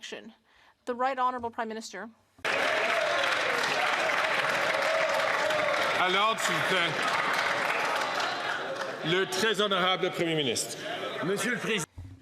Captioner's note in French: applaudissements